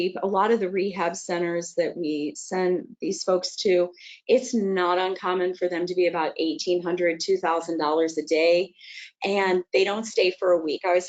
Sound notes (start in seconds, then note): none